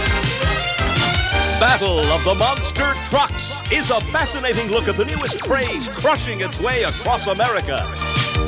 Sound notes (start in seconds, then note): 3.2 voiceover; 4.7 crowd cheering; 5.5 voiceover